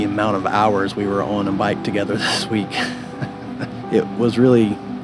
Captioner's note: laughs